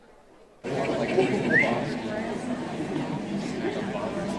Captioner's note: audience chatters